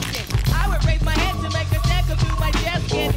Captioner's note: Sprühgeräusche